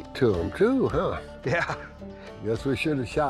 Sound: laughs

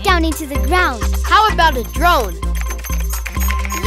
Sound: typing

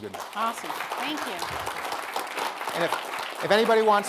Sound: audience applauding

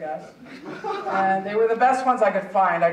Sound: audience chuckling

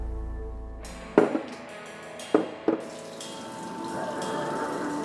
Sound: cups thud softly; tense, wild music

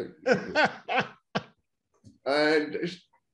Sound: laughing loudly

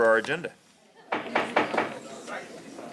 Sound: pounding gavel

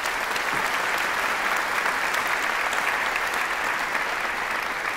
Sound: applause

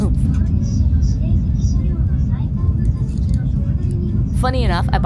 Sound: announcer speaking in Japanese

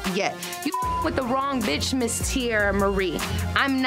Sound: beep

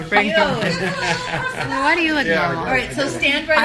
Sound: laughter

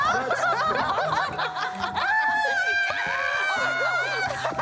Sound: laughter; screams; laughter

